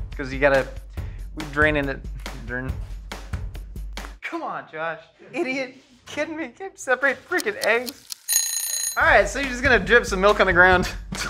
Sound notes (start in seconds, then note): 7.6 timer ringing